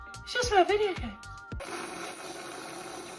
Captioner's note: slurps drink